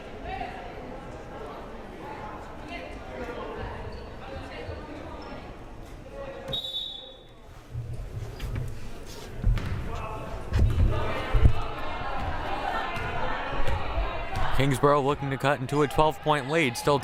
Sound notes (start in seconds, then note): 6.5 whistle blaring; 10.8 crowd cheering